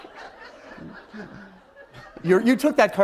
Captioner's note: laughter